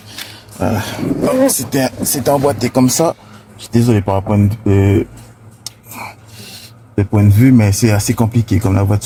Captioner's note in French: grognement